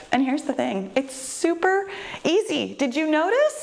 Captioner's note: none